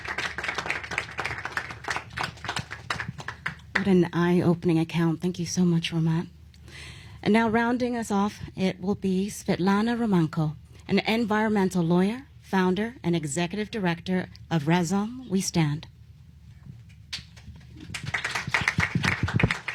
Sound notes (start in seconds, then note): 0.0 applause